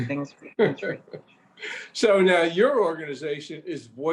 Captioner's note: laughs